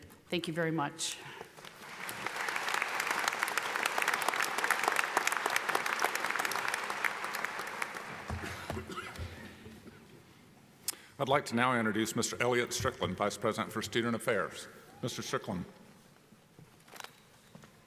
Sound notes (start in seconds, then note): 1.7 audience applauding